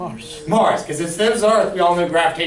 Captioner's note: voiceover